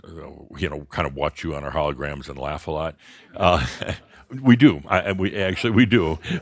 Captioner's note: a few chuckles; a few more chuckles